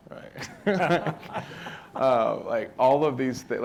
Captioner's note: audience laughing